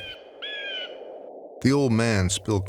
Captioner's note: bird cawing